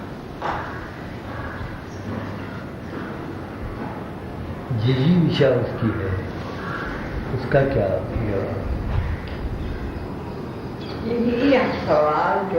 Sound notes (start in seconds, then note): 5.3 discussion in Hindi